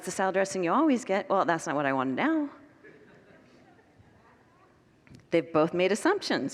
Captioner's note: congregants laugh